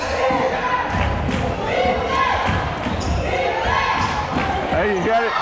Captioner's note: crowd chanting defense